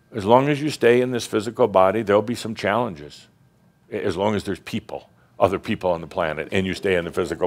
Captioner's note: none